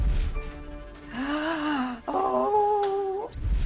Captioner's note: gasps